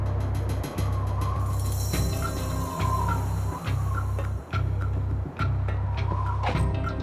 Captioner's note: tense music; wind howling; tense music